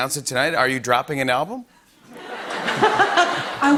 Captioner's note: laughter